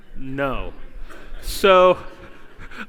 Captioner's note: laughter